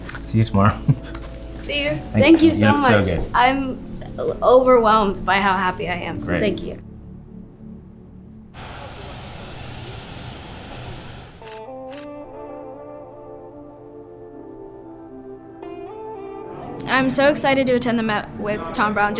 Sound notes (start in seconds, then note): 11.4 camera clicking; 13.0 light music